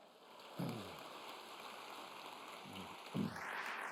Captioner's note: applause